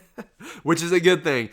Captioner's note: laughs